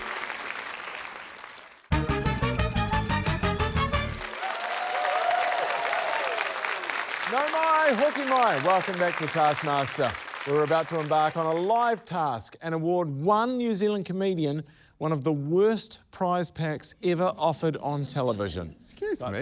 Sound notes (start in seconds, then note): 1.9 upbeat fanfare; 4.0 cheering, applause